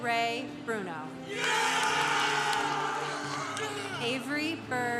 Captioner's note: congregation applauding